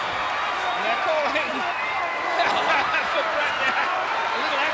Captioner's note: wrestlers grunting; laughs